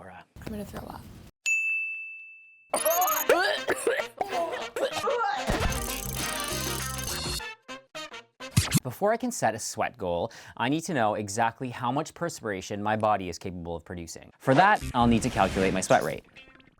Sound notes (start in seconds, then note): 1.4 dinging; 2.8 gagging